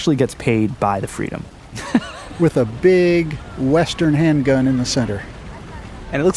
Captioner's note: laughs